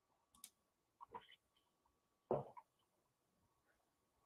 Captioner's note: mouse clicks